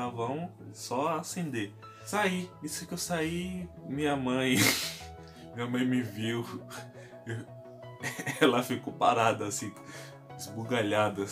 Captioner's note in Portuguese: riso